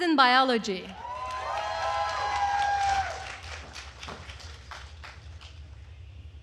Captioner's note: attendees cheering and applauding